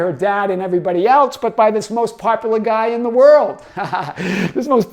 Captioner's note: laughing